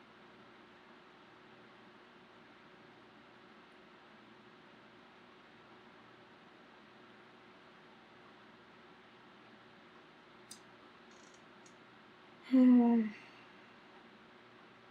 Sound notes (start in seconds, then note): 12.4 exhales loudly